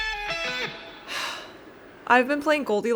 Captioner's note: dramatic sigh